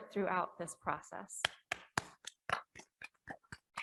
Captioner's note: claps